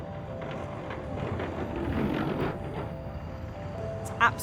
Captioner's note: gentle music; skatewheels thudding